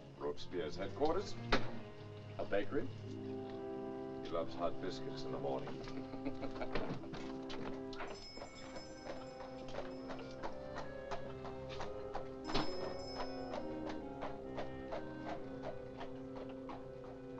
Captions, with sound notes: - Robespierre's headquarters. - A bakery? - He loves hot biscuits in the morning. (Charles laughs) (door chimes jingle) (hooves trotting away)